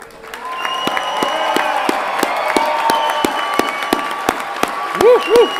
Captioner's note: everyone clapping and cheering